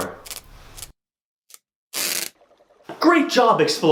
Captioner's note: sounds of sticky tape being pulled